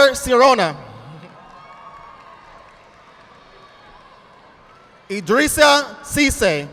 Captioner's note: audience applauding